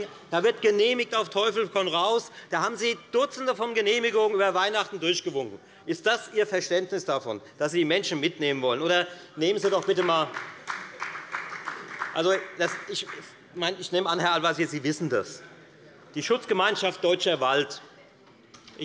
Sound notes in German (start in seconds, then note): 9.6 Beifall bei der FDP